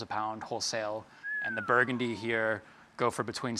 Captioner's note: impressed whistle